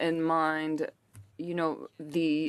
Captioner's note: speaking French